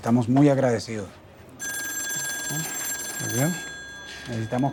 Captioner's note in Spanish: Suena el teléfono